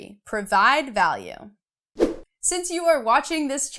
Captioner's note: air whooshing